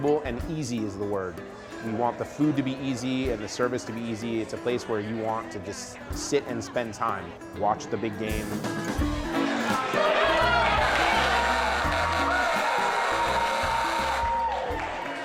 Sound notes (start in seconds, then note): 9.4 cheers and applause; 11.1 buzzer sounds